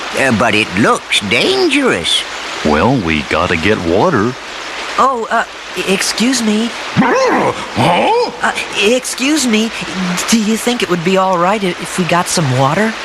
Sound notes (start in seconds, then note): 6.9 grumbling noises